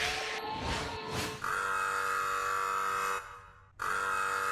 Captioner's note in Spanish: Alarma